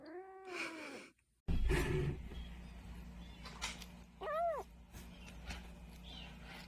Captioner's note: Rookie crying outside